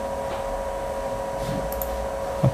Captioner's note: clicking sound